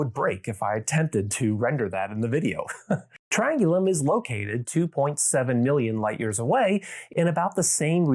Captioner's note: chuckles